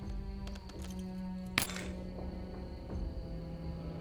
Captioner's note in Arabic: طقطقة على الأرض